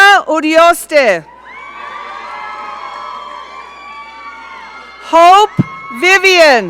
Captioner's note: audience cheering